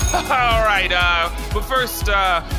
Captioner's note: laughing; sound stage bell